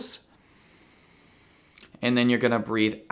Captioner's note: inhales